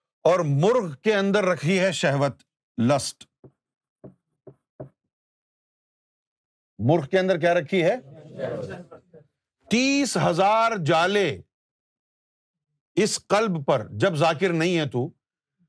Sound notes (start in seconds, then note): 8.3 audience repeats